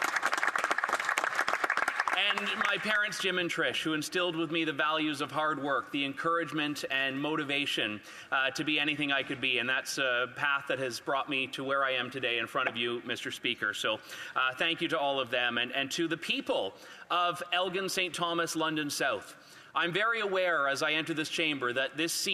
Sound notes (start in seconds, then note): 1.5 some Applause